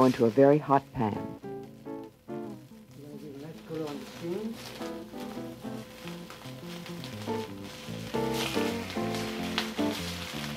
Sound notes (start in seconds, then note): 2.0 pan sizzling; 6.5 calm music